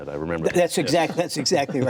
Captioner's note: laughter